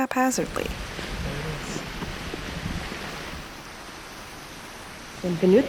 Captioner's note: running fountain water